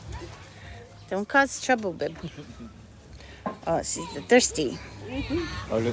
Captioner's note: laughter